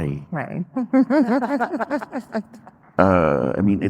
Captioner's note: laughs